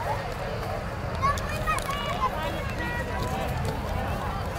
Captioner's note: people chatter